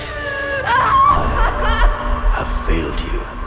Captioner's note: Mia screaming